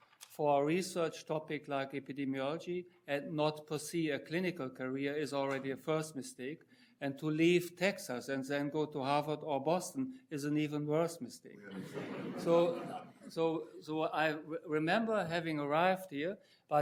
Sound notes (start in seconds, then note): 11.6 audience laughing